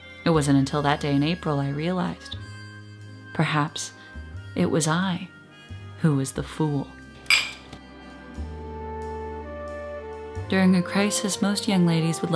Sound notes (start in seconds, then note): 7.2 glasses clink